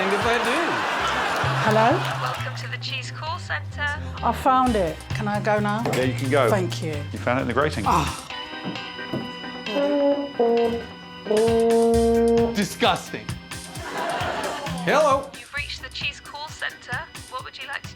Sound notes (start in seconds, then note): 9.6 plays horn; 9.8 scoffs